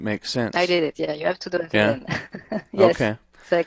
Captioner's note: laughs